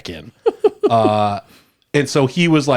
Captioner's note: laughs